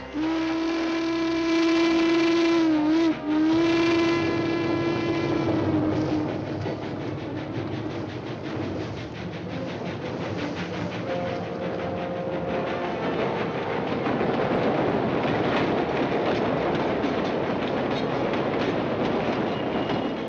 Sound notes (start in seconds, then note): 0.0 train horn blares; 5.4 train rumbling